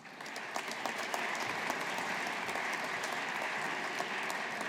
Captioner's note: audience applauding